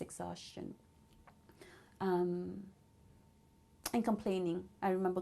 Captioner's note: pauses for 3 seconds